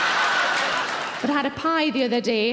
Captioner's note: audience laughing; audience applauding